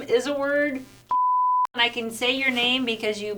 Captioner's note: beep